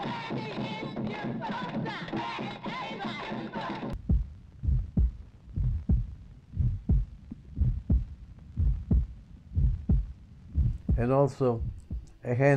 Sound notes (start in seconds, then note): 0.0 people chanting; 0.2 drum Beating; 4.7 heart Beating